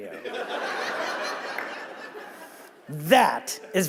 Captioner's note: audience laughing